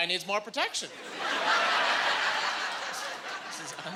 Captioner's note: laughing